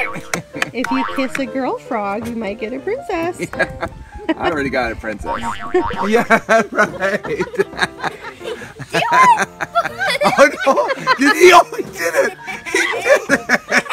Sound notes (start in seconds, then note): 7.2 laughter